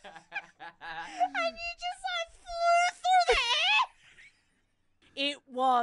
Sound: hysterical Laughing; laughs

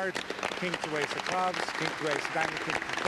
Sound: applause

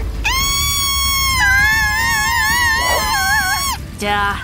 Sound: screaming

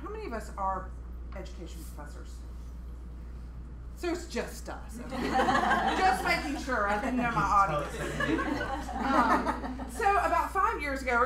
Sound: laughter

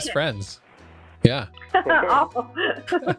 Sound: both laughing

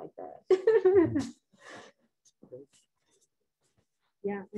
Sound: laughs

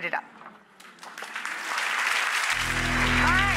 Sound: audience clapping

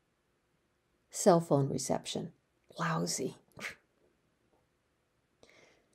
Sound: scoffs

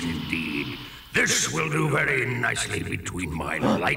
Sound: gasps

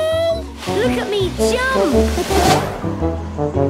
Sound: laughing

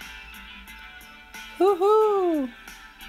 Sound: whoo Whoooo

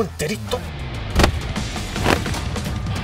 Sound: kicking sound

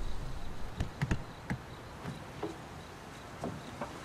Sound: crickets chirping

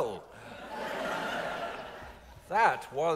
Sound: audience laughs

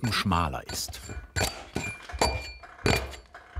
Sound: metal sound

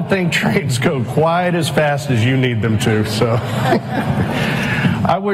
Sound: laughter

